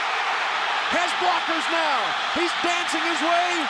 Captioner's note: crowd cheering